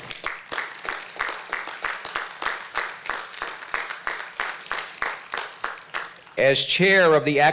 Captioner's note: applause